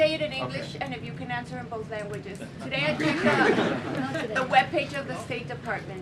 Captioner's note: laughter